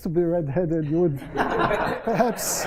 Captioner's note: laughter